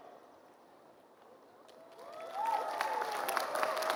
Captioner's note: applause